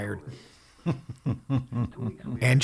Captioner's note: laughing